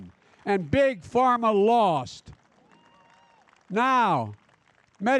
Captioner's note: applause